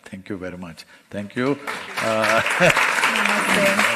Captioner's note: applause